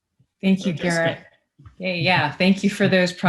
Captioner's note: speaks faintly